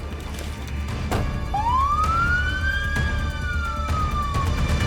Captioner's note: siren wailing